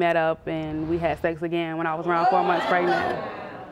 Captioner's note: audience gasps